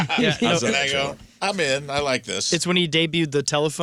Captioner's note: laughing